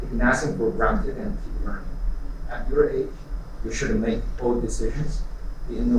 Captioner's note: none